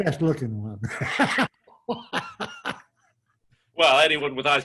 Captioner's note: laughs